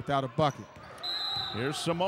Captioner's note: whistle blows